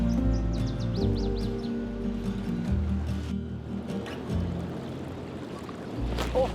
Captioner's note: birds singing; uplifting music plays